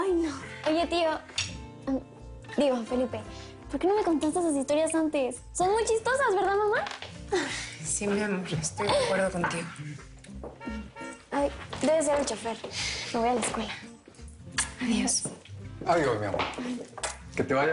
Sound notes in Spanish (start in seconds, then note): 10.5 Sonido del claxon